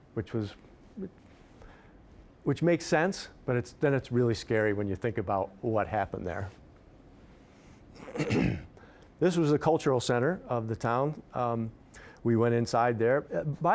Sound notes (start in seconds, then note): 7.9 clearing throat